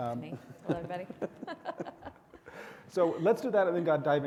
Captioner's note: all giggle; chuckles